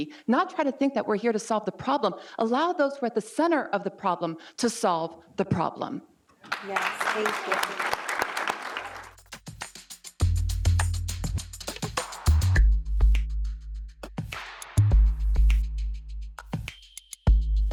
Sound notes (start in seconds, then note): 6.4 audience applauds; 8.8 rhythmic instrumental music